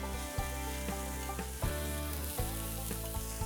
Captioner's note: grill sizzling